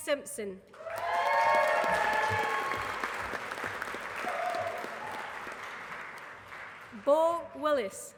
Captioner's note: applause